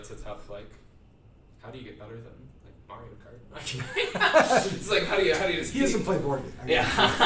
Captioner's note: laughter